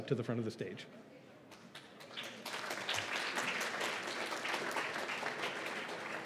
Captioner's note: applause